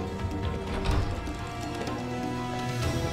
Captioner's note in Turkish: Kapı açılma sesi